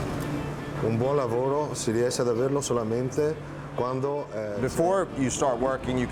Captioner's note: speaking foreign language